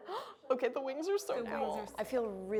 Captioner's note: gasps